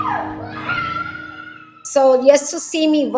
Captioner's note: screaming